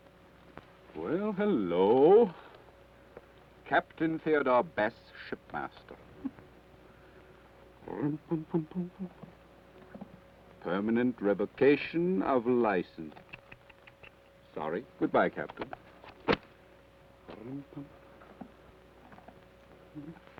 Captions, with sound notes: - Well, hello. "Captain Theodore Bess, Shipmaster." (hums melodically) "Permanent revocation of license." (tuts) Sorry. Goodbye, Captain. (hums melodically)